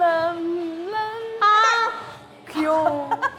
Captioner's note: upset